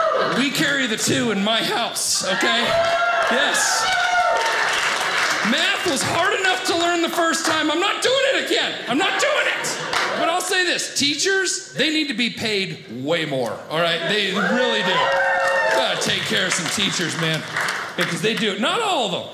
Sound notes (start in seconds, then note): 3.8 audience cheers; 13.9 audience cheers